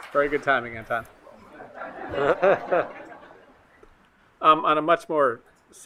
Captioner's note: attendees laughing